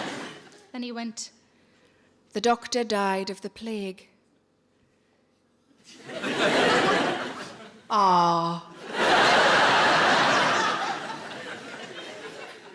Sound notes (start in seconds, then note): 5.9 audience laughing